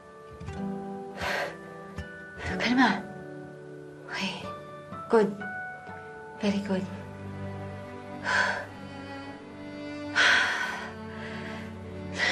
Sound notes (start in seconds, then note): 1.1 exhales sharply; 7.2 deep breaths